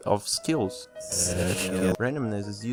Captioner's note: sound reversed